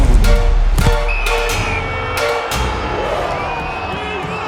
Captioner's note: whistle blows; dramatic music